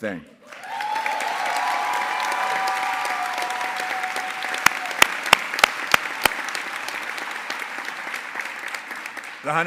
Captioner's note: applause